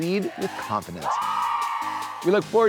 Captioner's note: students cheering